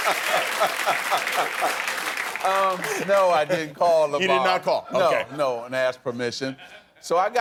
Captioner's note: cheers and applause